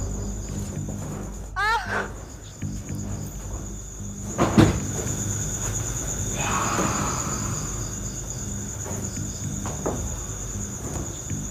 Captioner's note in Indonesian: suara benda jatuh di ikuti dengan geraman keras